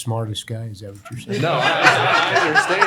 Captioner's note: laughter